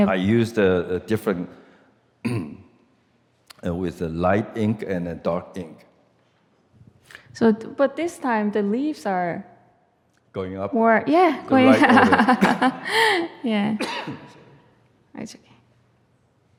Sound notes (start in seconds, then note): 11.5 laughs; 13.8 coughs